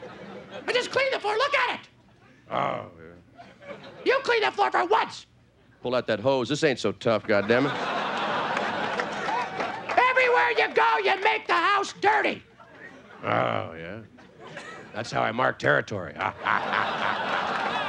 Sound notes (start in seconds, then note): 2.5 playful grunting; 7.3 audience laughing; 13.2 playful grunting; 16.7 playful grunting